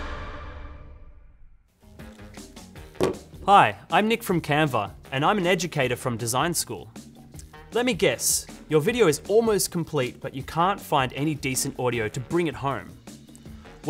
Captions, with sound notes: (headset thuds) Hi, I'm Nick from Canva, and I'm an educator from Design School. Let me guess, your video is almost complete but you can't find any decent audio to bring it home.